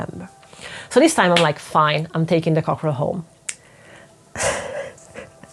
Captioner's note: laughs